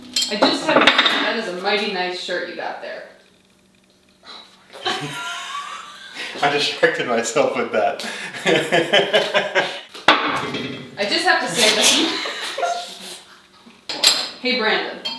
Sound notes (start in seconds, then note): 4.7 both laughing; 11.7 both laughing